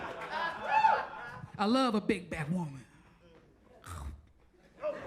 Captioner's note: audience laughs and cheers; chomps; audience laughs